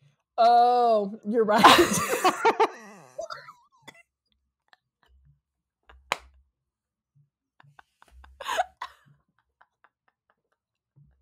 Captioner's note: dies of laughter